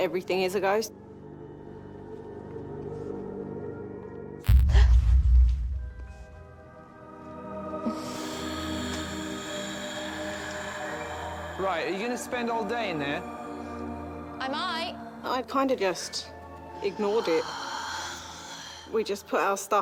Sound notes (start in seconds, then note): 5.1 startled gasp; 7.8 raspy breath